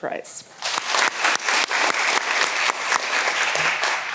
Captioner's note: all applauding